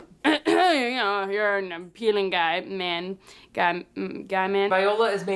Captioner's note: coughs